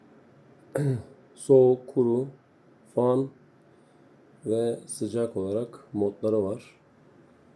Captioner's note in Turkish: boğazını temizler